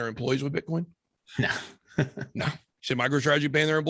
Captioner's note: laughing